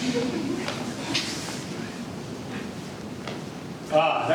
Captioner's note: canned laughter